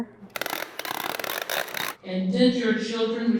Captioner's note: tape gun clicking